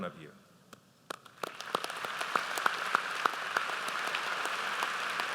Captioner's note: audience applauds